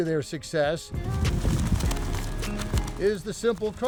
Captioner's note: upbeat music continues; wind whooshes